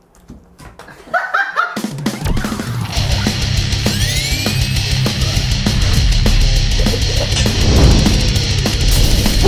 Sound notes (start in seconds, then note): 0.9 laughing